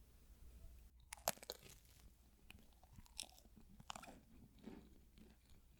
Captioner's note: the sound of eating bread with sliced almonds